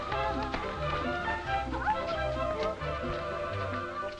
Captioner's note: Pandora humming